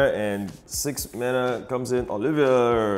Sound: none

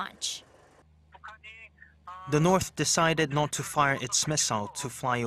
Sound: Korean

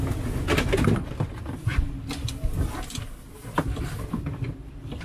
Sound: boat jolts and clicks

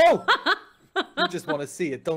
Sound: laughing

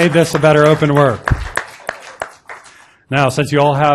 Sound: applause

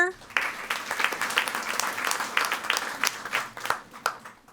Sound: audience applauding

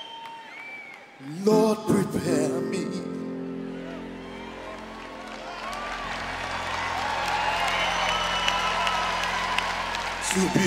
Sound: cheers and applause

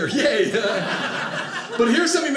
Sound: audience laughing

